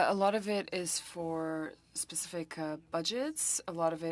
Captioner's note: speaking French